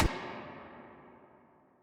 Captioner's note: slam